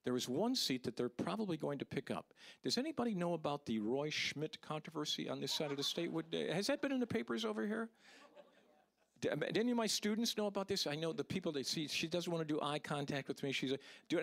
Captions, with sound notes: THERE IS ONE SEAT THAT THEY'RE PROBABLY GOING TO PICK UP. DOES ANYBODY KNOW ABOUT THE ROY SCHMIDT CONTROVERSY ON THIS SIDE OF THE STATE? (audience laughing) HAS THAT BEEN IN THE PAPERS OVER HERE? (audience laughing) DO ANY OF MY STUDENTS KNOW ABOUT THIS? I KNOW, THE PEOPLE THAT-- SEE, SHE DOESN'T WANT TO DO EYE CONTACT WITH ME.